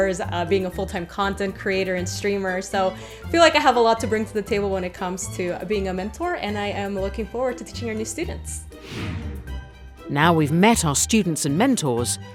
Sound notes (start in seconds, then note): 8.7 air whooshing